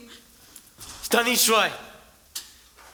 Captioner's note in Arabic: بالعربية